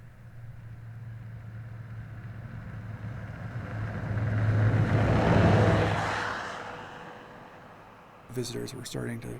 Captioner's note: snow coach roars